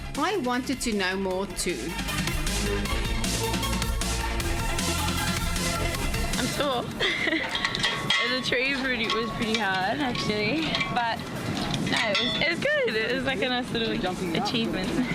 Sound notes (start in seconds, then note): 2.7 intense, upbeat music; 6.2 laughs